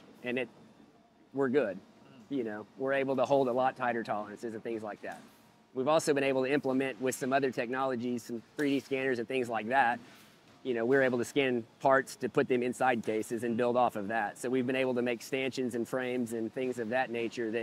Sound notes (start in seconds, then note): none